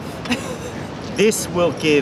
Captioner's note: laughter